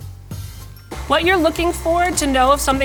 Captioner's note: mixer whirs